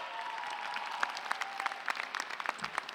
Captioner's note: applause